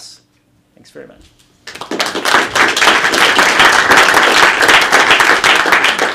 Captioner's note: applause